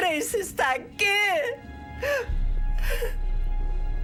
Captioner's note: sobbing